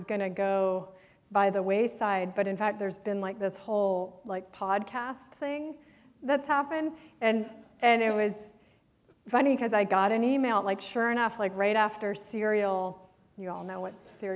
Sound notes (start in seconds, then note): none